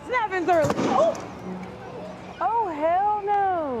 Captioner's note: crash